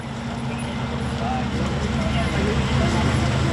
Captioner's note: engine roaring